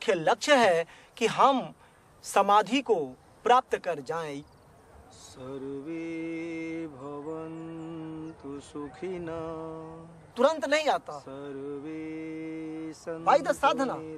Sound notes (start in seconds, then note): 5.8 chanting in foreign language